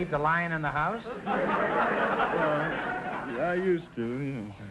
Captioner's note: audience laughter